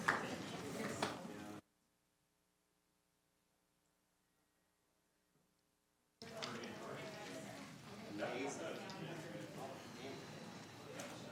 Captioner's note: applauding